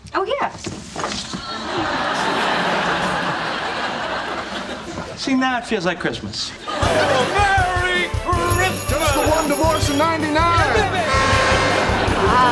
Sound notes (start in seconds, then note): 1.3 audience laughing; 6.7 christmas music